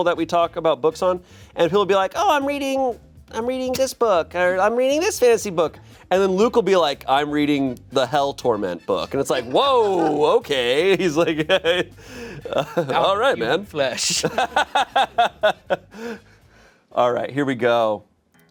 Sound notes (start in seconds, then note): 11.8 chuckles; 13.9 laughing